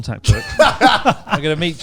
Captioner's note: laughing loudly